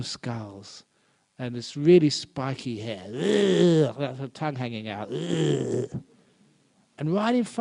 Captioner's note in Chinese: 嘔！